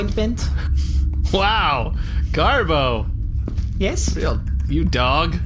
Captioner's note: laughing